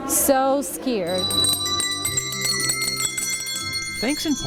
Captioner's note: bells ringing